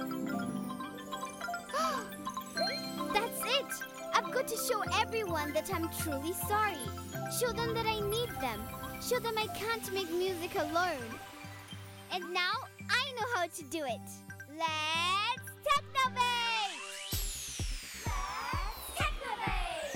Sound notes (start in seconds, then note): 1.0 gasps; 16.5 upbeat music